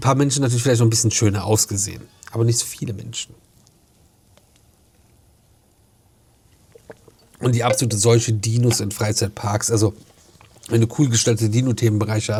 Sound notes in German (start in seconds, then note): none